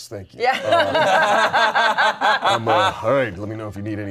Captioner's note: everyone laughs